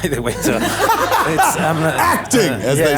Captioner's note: laughing